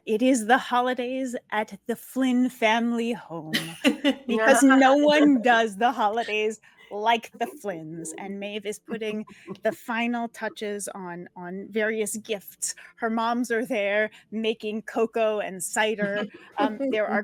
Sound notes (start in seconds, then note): 3.5 laughs